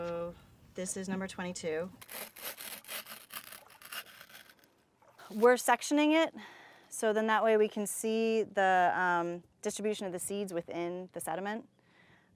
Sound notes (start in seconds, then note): 2.0 scraping